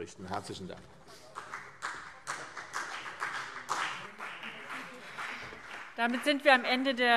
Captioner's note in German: Beifall CDU und BÜNDNIS 90/DIE GRÜNEN